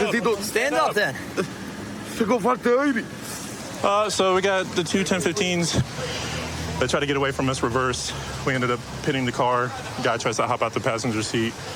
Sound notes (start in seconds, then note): 0.0 speaking spanish; 1.8 speaking spanish